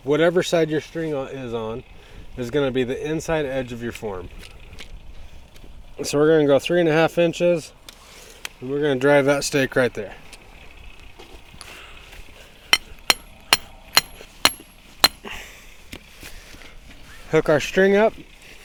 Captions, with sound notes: whatever side your string is on this is gonna be the inside edge of your form. So we're gonna go three and a half inches. We're gonna drive that stick right there. (metal hitting sound) Hook our string up.